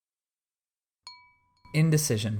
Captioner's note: chime sound